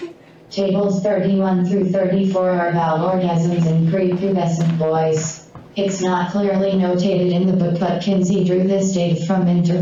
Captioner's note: robotic voice